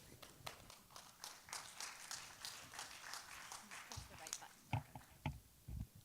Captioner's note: applause